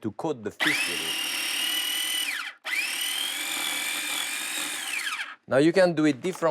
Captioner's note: processor whirring